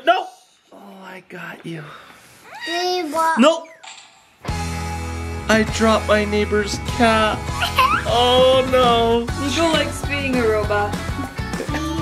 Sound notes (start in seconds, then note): 4.5 guitar playing; 7.5 giggling